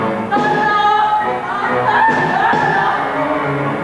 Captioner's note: laughing then yelling